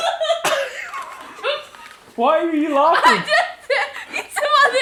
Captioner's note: laughs